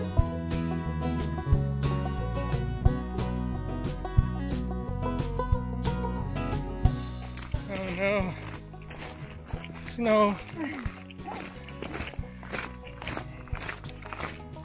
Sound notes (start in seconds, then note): 10.5 chuckles